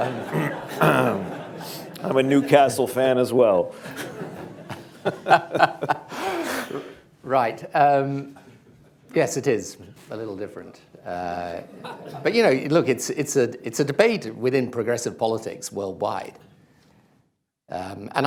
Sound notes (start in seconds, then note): 3.8 laughter, laughs; 6.7 laughs; 10.4 laughter